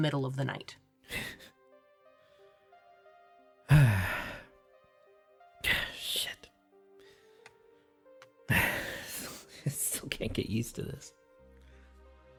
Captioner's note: sighs